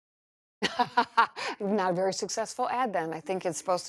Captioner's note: laughs